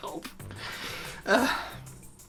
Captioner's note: sighs in anguish